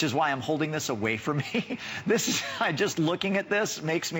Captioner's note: laughter